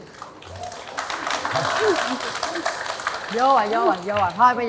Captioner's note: applause